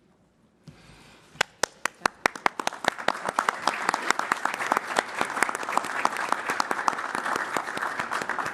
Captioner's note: applause